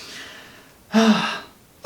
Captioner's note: sigh